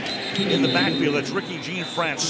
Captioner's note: whistle blows